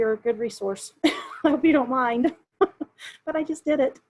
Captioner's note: chuckles